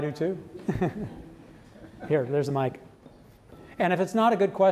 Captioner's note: laughs